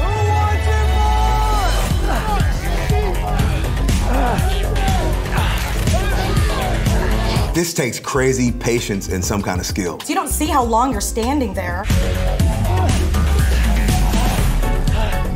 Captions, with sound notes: - Who wants some more? (men grunting) - This takes crazy patience and some kind of skill. - You don't see how long you're standing there. (intense music)